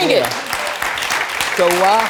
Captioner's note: audience applauds